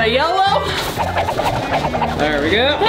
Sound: whirling sound

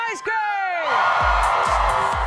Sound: crowd cheers

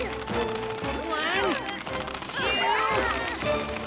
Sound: all shouting

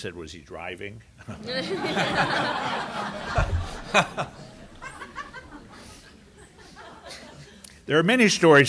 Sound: laughter

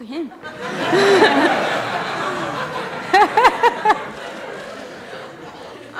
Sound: laughter

